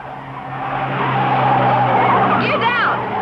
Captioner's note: tires screeching